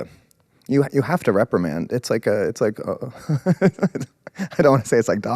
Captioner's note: laughs